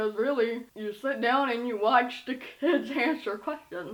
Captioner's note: laughs